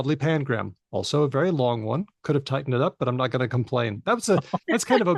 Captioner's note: laughter